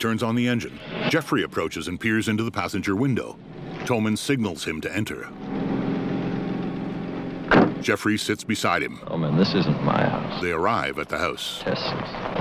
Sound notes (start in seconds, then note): 0.6 engine revs; 2.2 engine humming